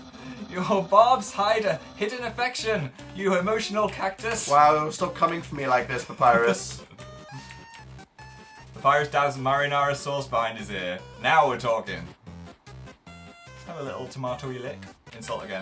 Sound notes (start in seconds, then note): 6.0 laughs